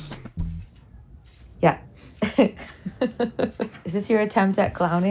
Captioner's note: chuckles